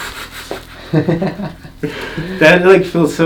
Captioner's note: laughter